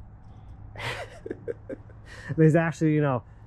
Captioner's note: laughing